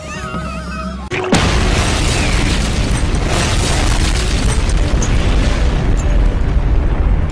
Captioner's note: explosion